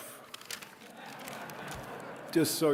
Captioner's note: audience laughing